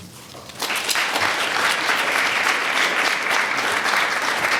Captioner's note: audience applauding